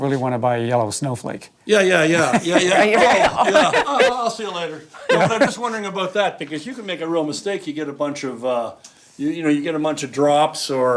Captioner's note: all laugh